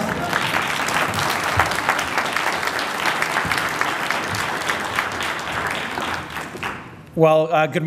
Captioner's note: applause